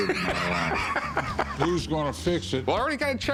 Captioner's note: laughs